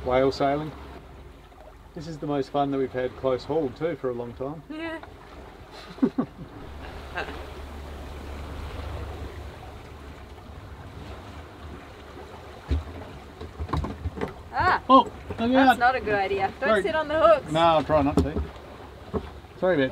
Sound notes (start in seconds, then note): 4.9 laughing; 8.4 waves splashing